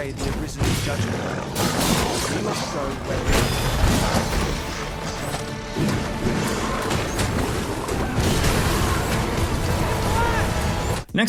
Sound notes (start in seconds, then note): 1.6 weapon clangs; 4.4 saurians growling; 8.3 dramatic music; 8.3 magic crackles